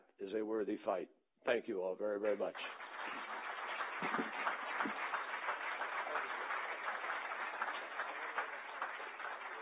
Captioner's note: applause